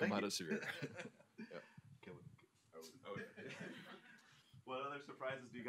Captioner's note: laughter